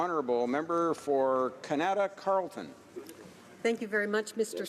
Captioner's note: speaking French